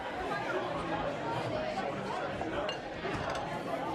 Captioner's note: indistinct chatter